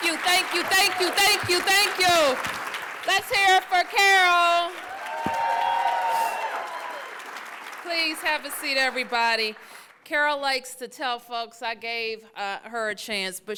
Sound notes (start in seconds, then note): 6.5 applause